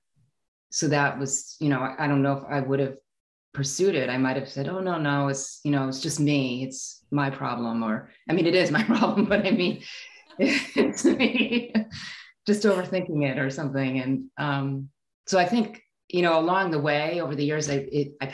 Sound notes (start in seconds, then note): 9.1 laughing